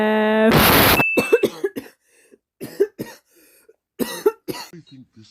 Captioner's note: background caughing